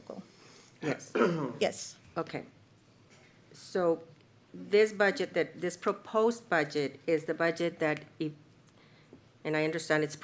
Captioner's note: clears throat